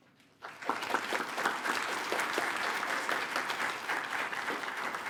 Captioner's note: attendees applaud